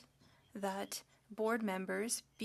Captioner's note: speaking French